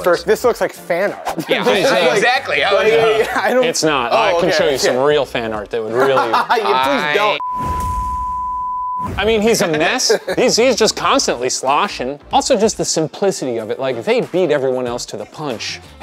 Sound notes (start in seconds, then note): 5.9 laughing; 7.3 screen beeping